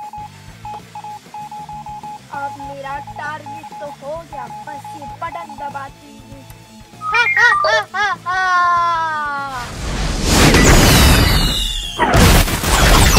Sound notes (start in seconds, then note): 7.0 giggling awkwardly; 7.0 ha ha ha